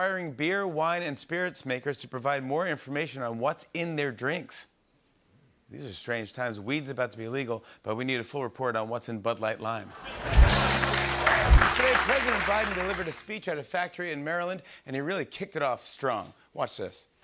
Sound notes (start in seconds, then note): 9.9 laughter